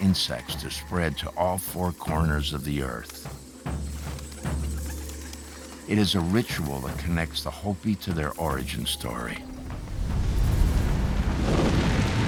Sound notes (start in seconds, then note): 3.4 bird wings flapping